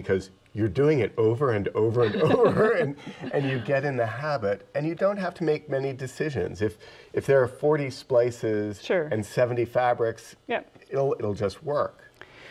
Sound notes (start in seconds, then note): 2.0 both chuckle